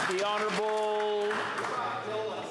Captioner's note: some Applause